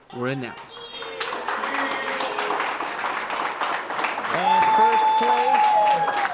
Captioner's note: audience cheers and applauds